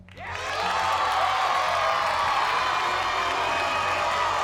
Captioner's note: cheers and applause